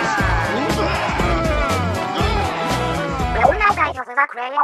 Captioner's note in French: Mario continue de vomir